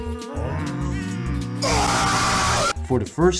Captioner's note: meme scream!